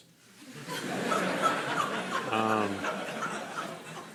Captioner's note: crowd laughing